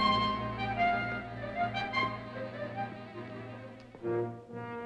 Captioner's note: footsteps clacking